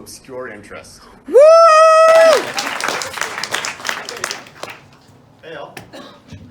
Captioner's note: audience claps